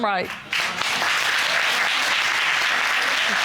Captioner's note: audience applauds